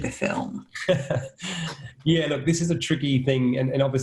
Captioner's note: laughing